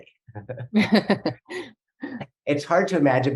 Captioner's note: laughing